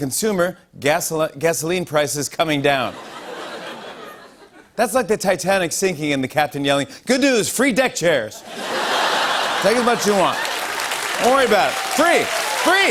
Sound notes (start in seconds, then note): 2.3 light laughter; 8.4 laughter